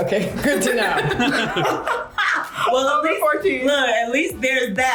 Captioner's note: all laugh